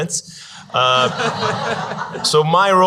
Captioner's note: audience laughs